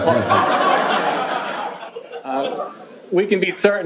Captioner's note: laughing